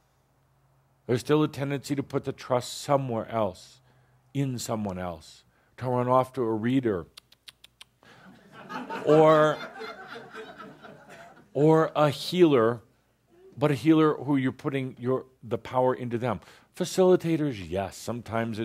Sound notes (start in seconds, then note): 8.2 laughter